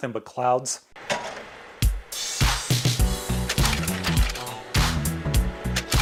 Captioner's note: sound of film projector